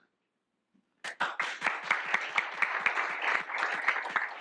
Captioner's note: applause